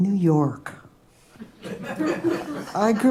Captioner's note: laughter